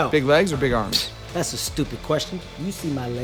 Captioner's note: scoffs